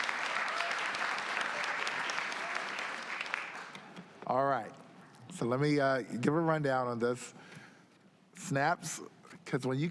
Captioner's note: applause